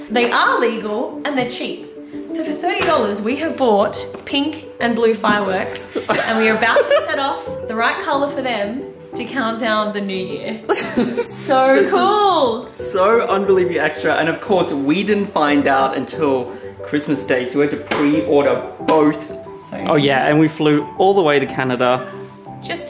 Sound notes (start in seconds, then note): 5.8 cameraman laughing